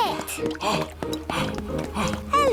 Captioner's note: panting